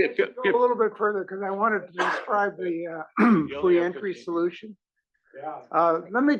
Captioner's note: cough